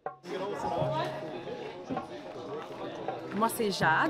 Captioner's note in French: brouhaha de voix